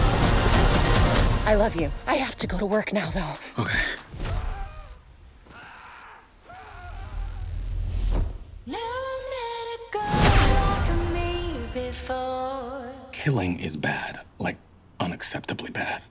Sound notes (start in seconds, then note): 4.5 man screams